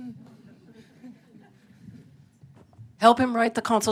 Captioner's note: laughter